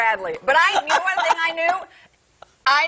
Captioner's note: laughter